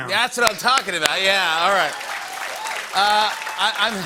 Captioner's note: cheers and applause